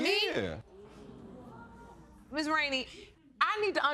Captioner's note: audience exclaiming